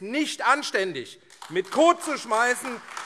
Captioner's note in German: Beifall AfD